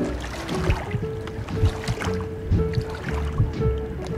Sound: heart beats

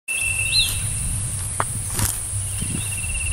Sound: footsteps

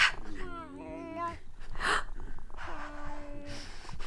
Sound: gasping; low meows

